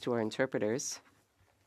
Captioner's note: speaking French